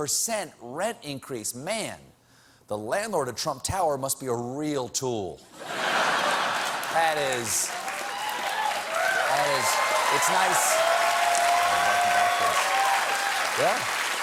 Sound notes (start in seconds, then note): 3.3 cheers and applause